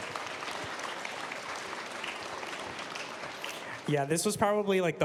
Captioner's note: applause